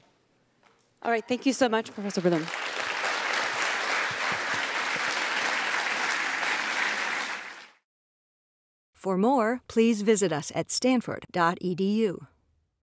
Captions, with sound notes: >> All right thank you so much Professor Wilhelm. >> [APPLAUSE] >> For more, please visit us at stanford.edu.